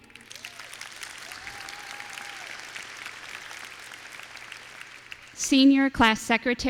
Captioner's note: applause